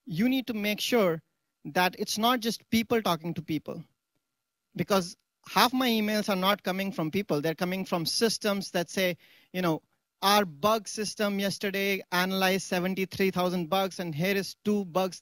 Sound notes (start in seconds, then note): none